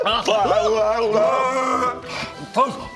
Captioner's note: hrrrggHGHHHH